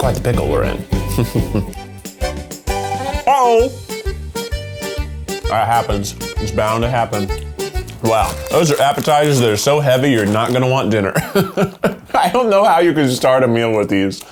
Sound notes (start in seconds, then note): 1.0 laughs; 4.1 quirky music; 11.0 chuckles